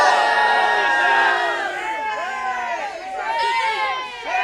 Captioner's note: crowd booing